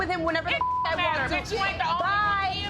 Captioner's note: beep